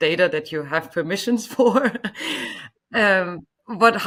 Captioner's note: chuckles